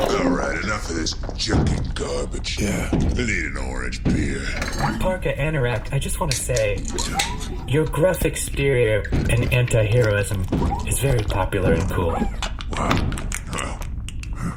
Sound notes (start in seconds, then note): 0.0 rocks rumbling, message-end noise; 4.8 bottles rattling in fridge